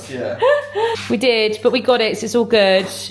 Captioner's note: laughs